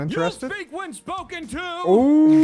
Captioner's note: horn; cheers